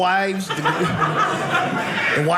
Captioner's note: audience laughing